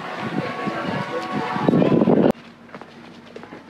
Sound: wind blowing

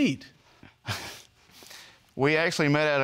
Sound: chuckles

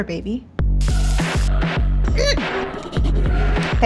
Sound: grease sizzling; Catherine choking; pen scribbling

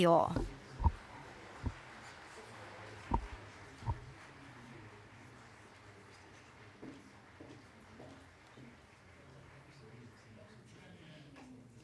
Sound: applause

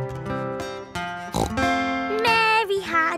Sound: playing guitar; snorts

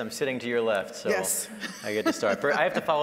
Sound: laughing

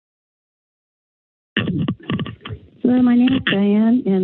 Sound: silence; mic thumping

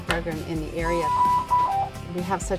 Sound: machine beeping

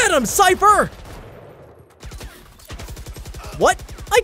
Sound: guns firing

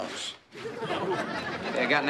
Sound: audience laughing

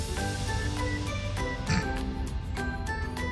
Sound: snickers

